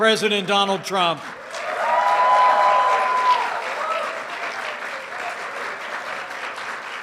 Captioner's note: applause